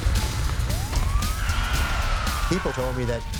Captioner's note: police siren wails